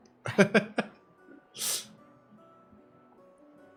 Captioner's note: laughing